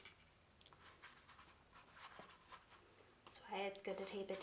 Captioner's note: paintbrush scratching